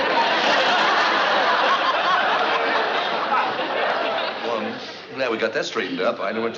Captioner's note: chuckles